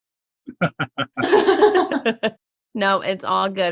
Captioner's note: laughing